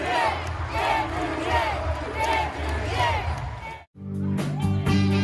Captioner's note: applause